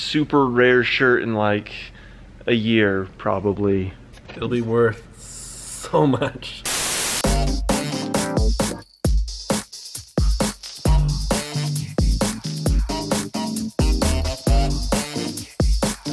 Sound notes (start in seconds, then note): 6.6 static; 7.1 upbeat music